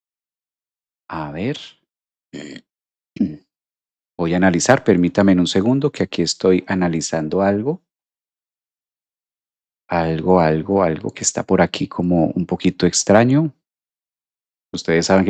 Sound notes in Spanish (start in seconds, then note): 2.3 carraspeo